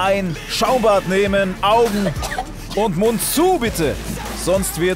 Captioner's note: Husten